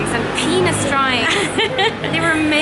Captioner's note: laughing